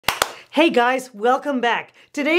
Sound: clapping

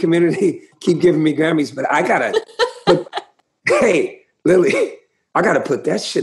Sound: laughter

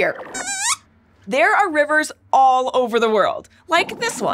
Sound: squeaks squeaks

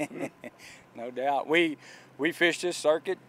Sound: laughs

